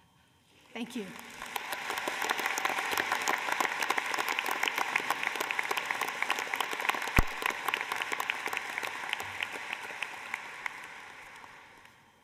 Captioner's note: applause